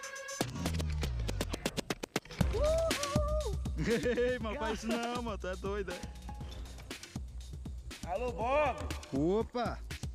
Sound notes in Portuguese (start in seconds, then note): 2.2 bradando; 8.0 ecoando